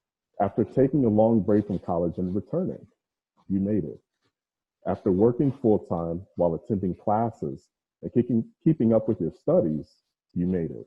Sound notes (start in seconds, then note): none